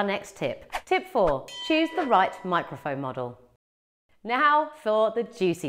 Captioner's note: bell ringing